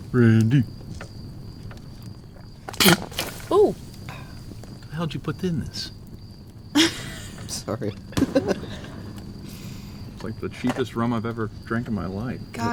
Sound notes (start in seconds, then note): 2.7 escupiendo; 6.7 riendo